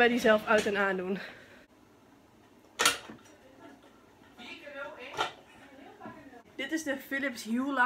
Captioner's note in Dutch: praten op de achtergrond